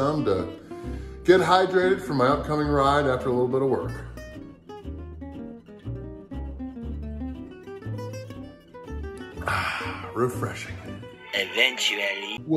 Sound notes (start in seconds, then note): 9.3 sighs